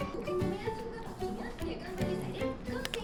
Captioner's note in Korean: 쩝쩝